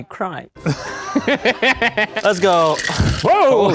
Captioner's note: both laugh